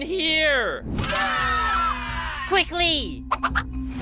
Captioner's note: screaming